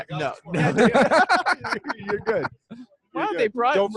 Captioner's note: all laughing